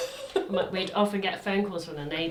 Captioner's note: laughs